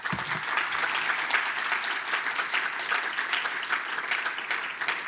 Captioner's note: applause